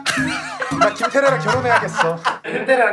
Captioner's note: mimicking Woonggi